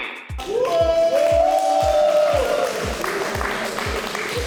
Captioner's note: cheering; clapping